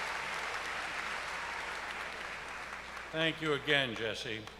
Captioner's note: cheers and applause